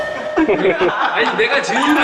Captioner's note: giggle